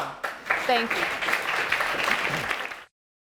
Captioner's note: audience applauding